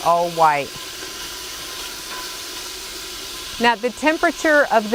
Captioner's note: sizzling